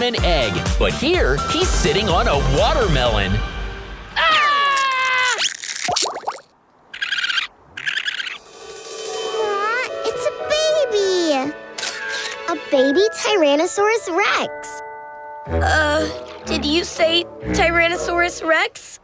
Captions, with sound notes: but here he's sitting on a watermelon. [screaming] [chirping] Ah, it's a baby. A baby Tyrannosaurus Rex. Uh, did you say Tyrannosaurus Rex?